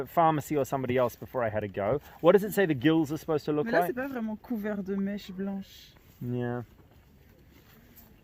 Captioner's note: french noises